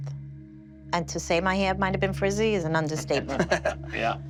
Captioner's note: laughter